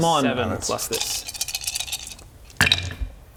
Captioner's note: optimistic rattle